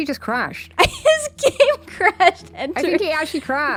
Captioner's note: laughs